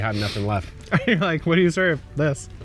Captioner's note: laughing